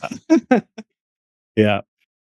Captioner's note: laughter